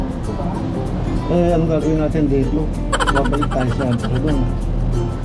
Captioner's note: laugh